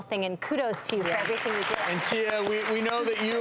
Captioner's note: audience clapping